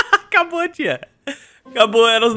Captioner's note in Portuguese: risos